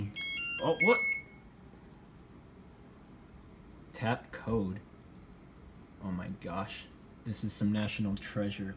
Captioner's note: beeping